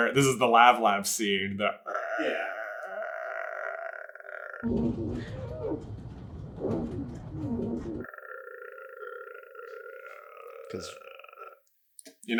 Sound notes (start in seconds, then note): 4.6 unbearable window squeaking